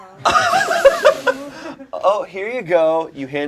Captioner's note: all laugh